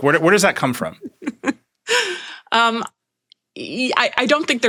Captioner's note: laughing